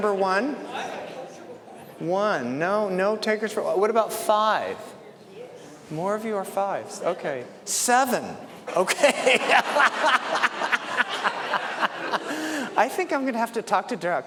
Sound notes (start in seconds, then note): 5.1 laughter